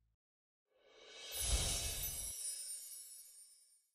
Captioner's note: screen whooshing